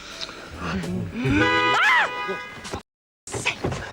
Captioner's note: honking